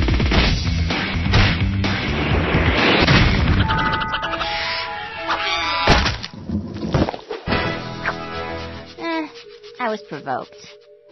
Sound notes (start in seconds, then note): 5.3 screeches